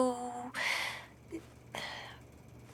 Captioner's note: exhales; inhales